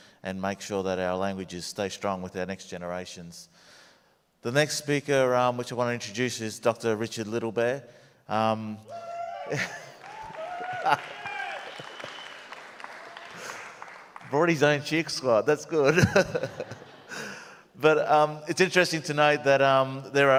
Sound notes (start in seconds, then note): 8.9 audience cheers and applauds; 15.8 audience laughs